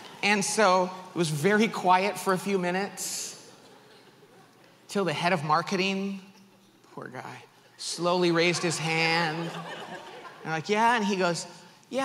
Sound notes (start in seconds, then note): 8.1 audience laughs